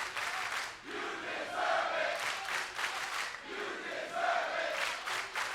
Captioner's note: crowd chants